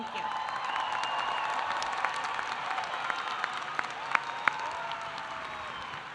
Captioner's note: audience applauding; audience cheering